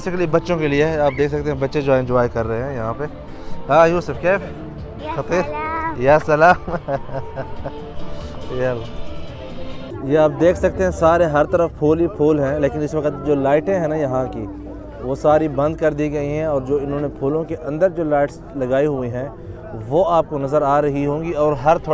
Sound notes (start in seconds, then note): 3.7 Arabic